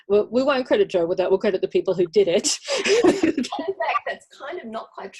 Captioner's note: laughs